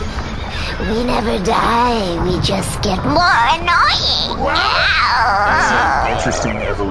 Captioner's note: more annoying voice